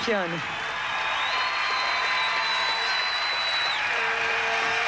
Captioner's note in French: acclamations